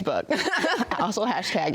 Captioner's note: both laugh; laughs